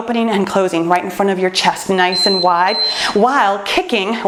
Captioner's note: timer beeps